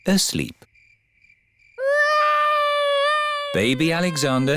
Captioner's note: baby alexander crying